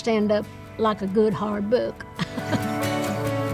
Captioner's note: upbeat instrumental music; chuckles